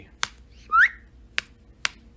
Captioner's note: whistles